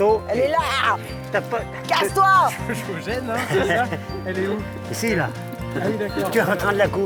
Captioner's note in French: rires